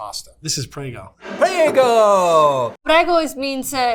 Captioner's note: jar scraping